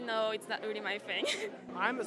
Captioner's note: laughs